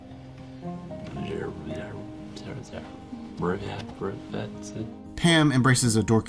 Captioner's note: imitates rewinding